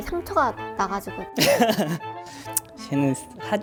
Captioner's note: awkward laugh